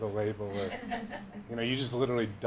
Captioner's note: laughing